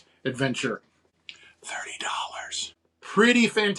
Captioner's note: whispering